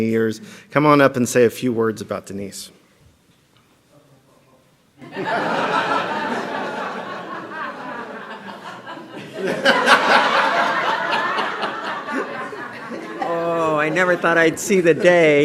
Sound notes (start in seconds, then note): 8.9 laughter